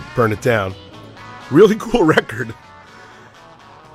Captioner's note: chuckles